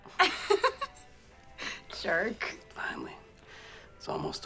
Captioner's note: laughs